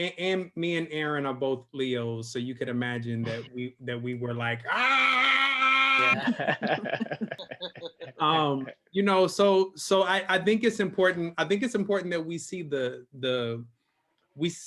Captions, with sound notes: And me and Aaron are both Leo, so you could imagine that we were like (roars). (laughs) So I think it's important that we see the,